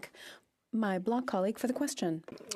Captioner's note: speaking French